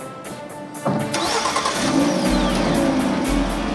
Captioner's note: engine starting